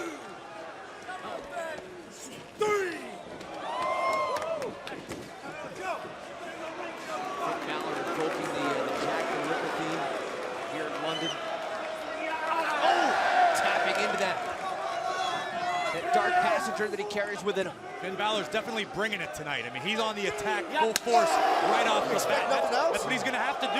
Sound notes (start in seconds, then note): 5.1 crowd chatter